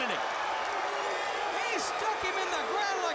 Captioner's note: crowd cheering